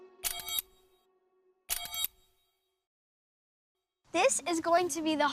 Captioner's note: computer bleeping